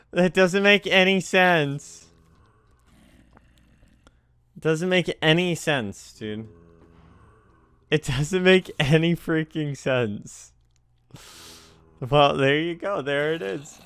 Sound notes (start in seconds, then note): 2.0 swallow; 11.1 another teeth inhale